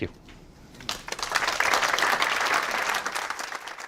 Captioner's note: applause